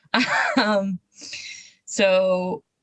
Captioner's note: laughs